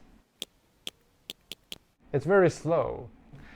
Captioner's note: whale clicking